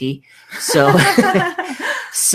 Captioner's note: both laugh